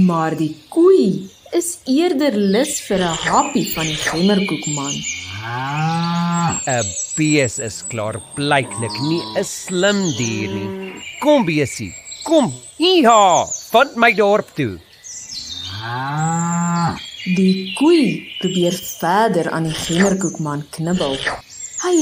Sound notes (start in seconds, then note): 5.1 cow mooing; 15.4 cow mooing